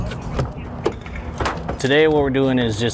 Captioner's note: metal clanking